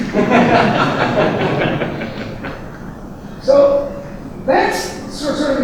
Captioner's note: audience laughing